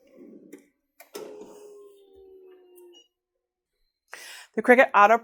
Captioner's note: heat press whirring